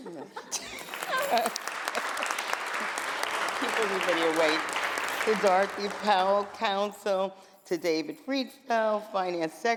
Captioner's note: applause